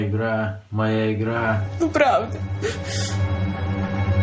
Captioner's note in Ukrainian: схлипує